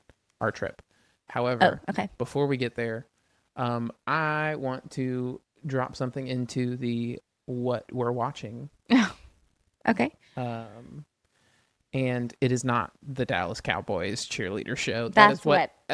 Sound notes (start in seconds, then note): 9.4 laughs